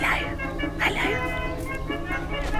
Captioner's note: whispering